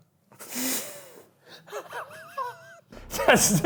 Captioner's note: they laugh